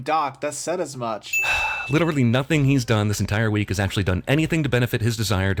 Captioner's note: sigh